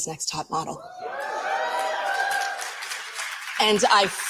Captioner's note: audience applauding